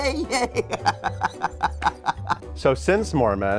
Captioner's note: both laugh